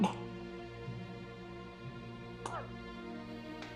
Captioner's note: coughing; soft dramatic music